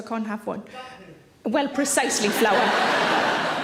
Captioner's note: audience laughing